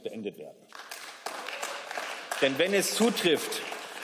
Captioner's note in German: Beifall